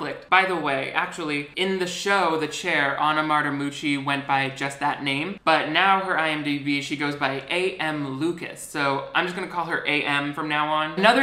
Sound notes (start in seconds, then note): none